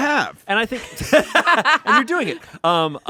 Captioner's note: everyone laughs